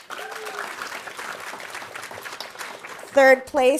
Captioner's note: audience applauding